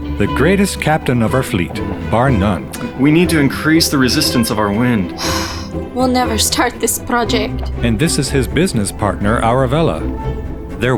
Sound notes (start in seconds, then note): 5.1 sighs